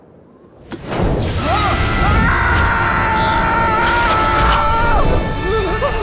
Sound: screaming; cheering

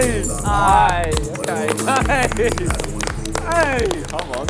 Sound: clapping

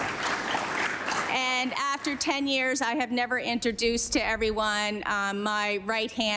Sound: applause

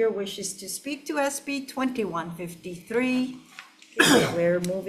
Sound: counsel member coughs

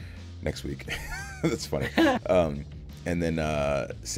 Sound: laugh

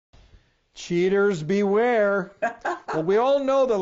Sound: woman laughing

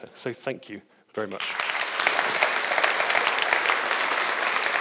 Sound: audience applauds

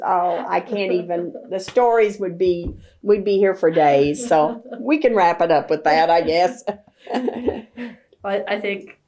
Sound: laughter; laughter

